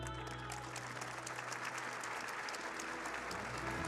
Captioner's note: audience clapping